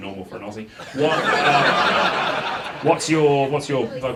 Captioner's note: audience laughs